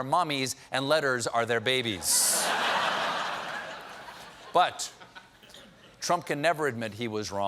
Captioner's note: laughter